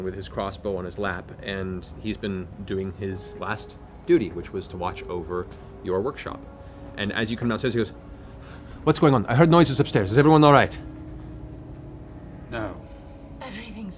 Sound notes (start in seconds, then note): none